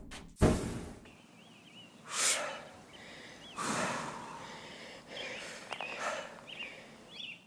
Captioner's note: exhales of superiority